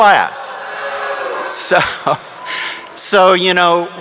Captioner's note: audience booing